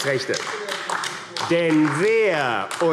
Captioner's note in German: Beifall